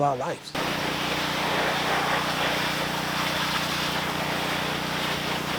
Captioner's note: compression washer motor humming